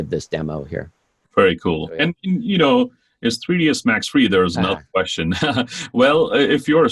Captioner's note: laughs